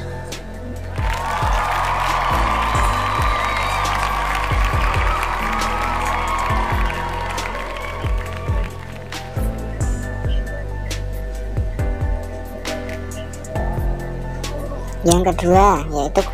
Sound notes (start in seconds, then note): 12.3 applause